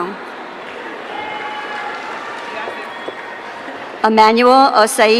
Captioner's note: audience cheering